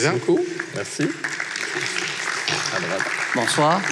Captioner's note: applause